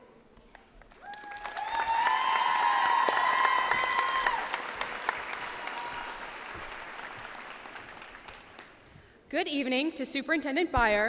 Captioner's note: cheers and applause